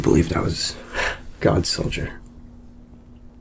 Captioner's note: chuckles